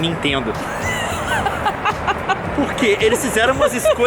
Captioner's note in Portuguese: risadas